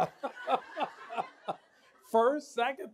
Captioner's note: laughs